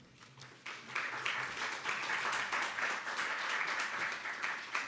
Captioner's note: audience applauding